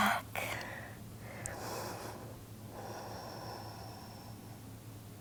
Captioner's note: breathing deeply